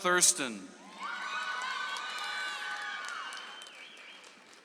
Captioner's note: audience applauds